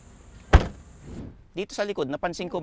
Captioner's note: door thuds